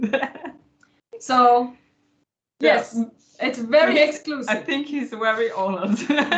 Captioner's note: laughter